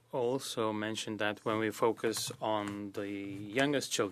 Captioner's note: speaking French